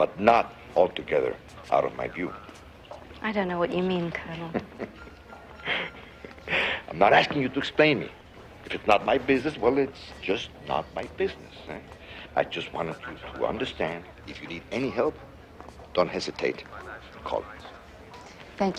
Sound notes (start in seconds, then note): 4.2 Rodriguez laughs